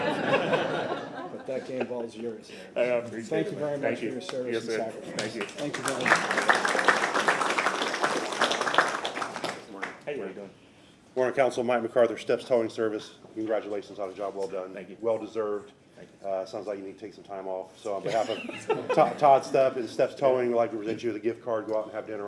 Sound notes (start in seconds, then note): 9.5 applause